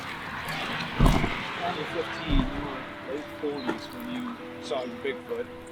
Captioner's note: birds chirping; footsteps crunching